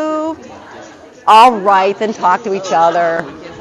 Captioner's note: audience chatter